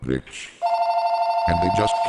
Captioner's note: ring ring someone's callin'